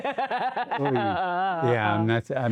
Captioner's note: laughing